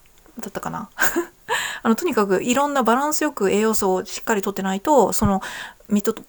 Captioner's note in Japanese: 笑い